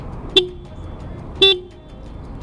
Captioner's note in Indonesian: Klakson